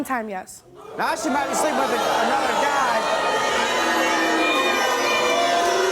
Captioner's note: drowned out by booing